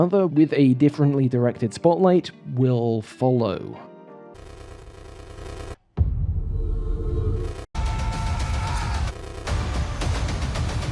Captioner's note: glitch sound effects